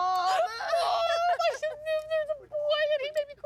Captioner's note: laughs